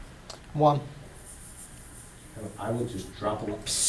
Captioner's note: voiceover